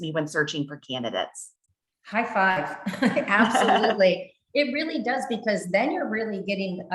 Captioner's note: chuckles